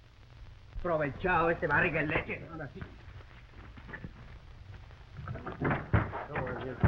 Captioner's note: Pablo speaking in foreign language